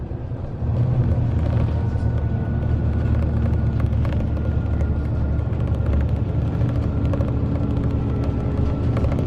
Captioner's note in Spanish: subida y sonido del motor del bus articulado Marcopolo Torino - Volvo B8R LEA